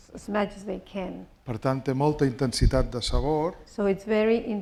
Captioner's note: speaking spanish